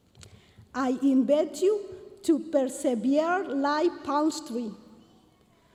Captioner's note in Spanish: continúa hablando en inglés